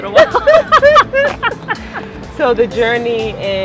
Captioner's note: laughter